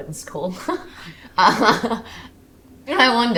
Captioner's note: Maisie laughs